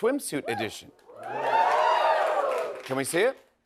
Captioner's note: cheers and applause